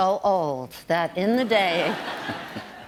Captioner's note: laughter